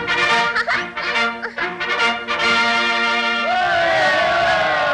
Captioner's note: Betty giggles; crowd cheering